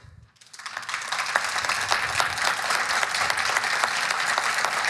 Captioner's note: audience applauding